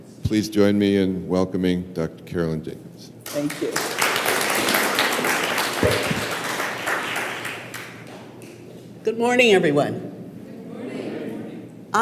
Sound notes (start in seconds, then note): 3.2 applause